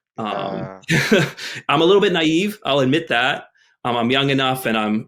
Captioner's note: chuckles